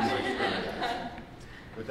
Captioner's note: laughter